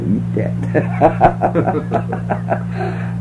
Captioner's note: laughter